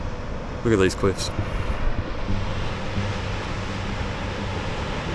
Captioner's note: wind blowing